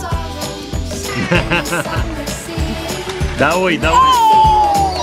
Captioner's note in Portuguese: risos